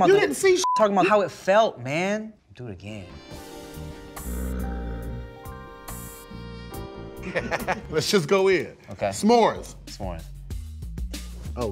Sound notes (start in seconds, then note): 7.2 laughs